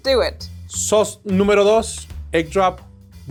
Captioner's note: speaking in foreign language